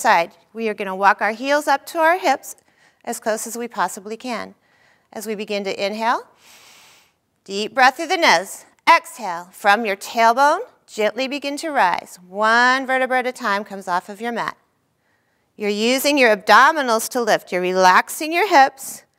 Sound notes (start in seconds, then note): 6.4 inhaling